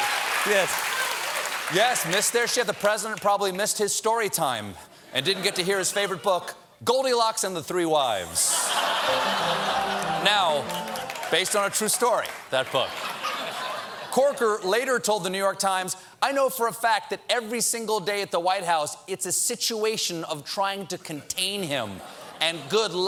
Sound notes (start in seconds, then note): 10.8 laughter; 10.8 piano riff; 12.7 laughter